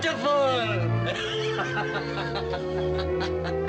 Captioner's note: laughs